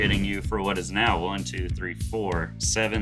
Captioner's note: counting